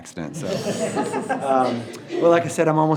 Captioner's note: all laughing